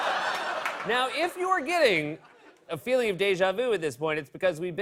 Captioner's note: laughter; normal voice